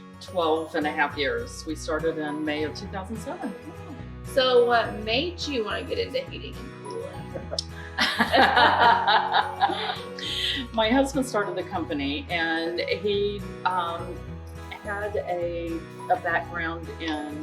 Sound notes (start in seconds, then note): 6.9 laughs